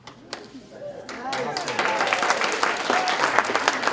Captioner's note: applause